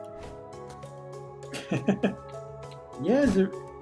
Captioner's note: laughs